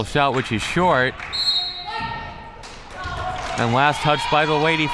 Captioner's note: whistle